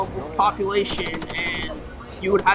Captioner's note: rapid gun firing